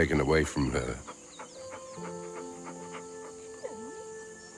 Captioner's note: panting